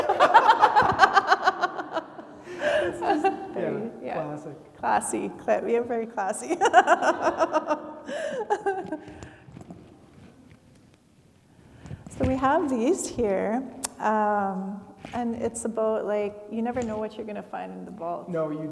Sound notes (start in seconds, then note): 0.0 laugh; 6.4 laughs